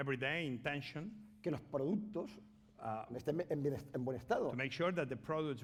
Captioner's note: speaking spanish